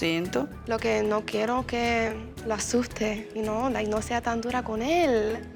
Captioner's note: speaking Spanish